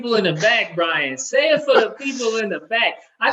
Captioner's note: laughing